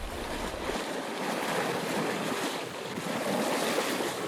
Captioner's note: waves splashing